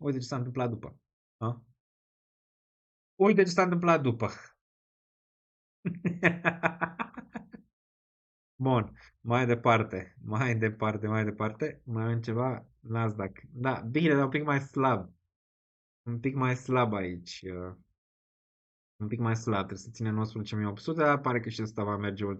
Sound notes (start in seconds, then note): 5.8 laughter